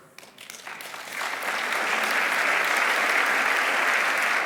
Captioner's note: audience applauding